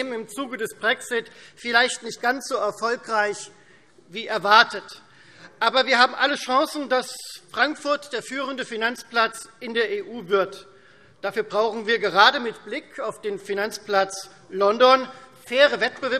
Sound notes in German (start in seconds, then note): none